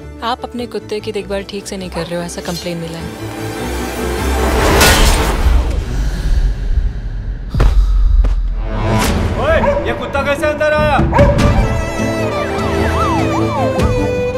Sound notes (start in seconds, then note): 4.6 Loud clang of metal